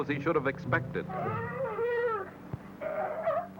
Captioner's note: barking